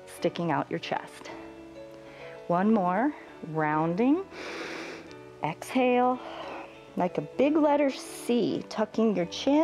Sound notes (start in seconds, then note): 4.3 exhales; 4.3 inhales